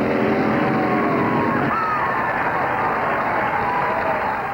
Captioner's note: crowd cheering